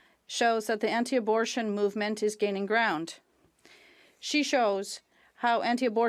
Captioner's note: speaking French